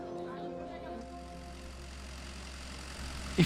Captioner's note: harvester rumbling